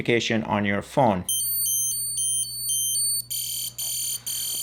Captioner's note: device ringing